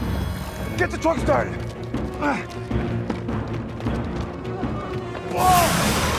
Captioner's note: dramatic music; Tector gasps